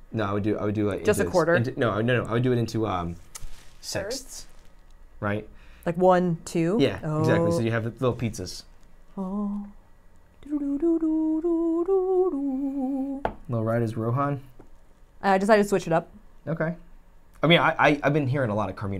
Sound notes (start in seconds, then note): 10.4 humming